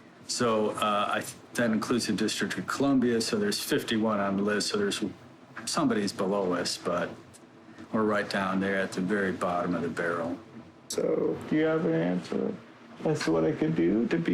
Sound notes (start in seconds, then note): none